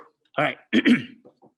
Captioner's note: clears throat